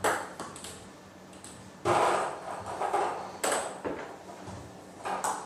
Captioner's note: ball ping pong hitting continues